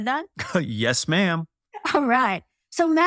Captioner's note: laugh